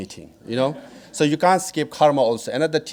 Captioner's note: audience laughing